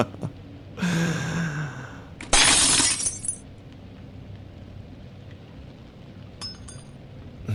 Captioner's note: SFX: A wine glass shattering